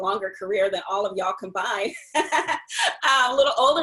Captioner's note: laughs